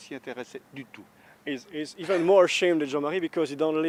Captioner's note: laughter